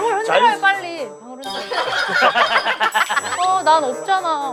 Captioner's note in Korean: 딸랑 딸랑